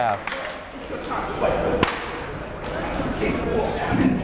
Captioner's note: chattering